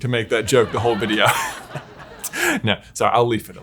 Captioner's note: laugh track